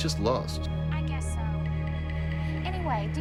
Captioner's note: on phone